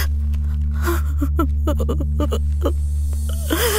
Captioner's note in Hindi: रोना